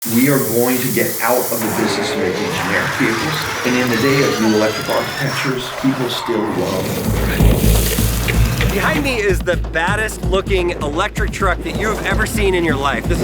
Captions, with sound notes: - We are going to get out (air blowing) of the business-making (car revs) generic vehicles. And in the day of new electric architectures, people still love driving. (truck rumbles) (soft techno music) - Behind me is the baddest looking electric truck that you've ever seen in your life.